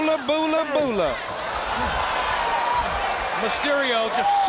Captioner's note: crowd cheering